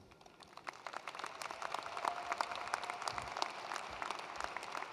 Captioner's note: attendees applauding